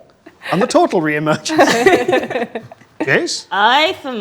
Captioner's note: group laughs